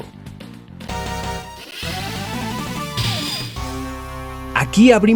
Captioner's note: Transition sound from SFA2